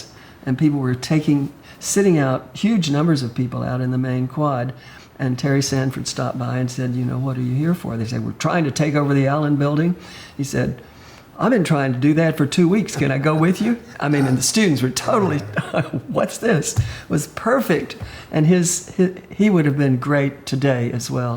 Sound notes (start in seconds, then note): 16.7 laughs